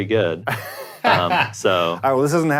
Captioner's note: laughs